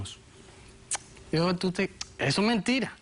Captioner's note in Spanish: Chasquido bucal